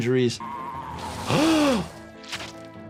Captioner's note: animal screaming; doctor gasping; blood splattering